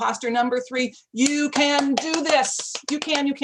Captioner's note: hands clapping